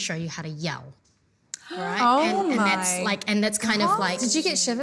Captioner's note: gasps